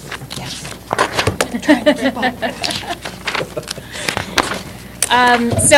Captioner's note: laughter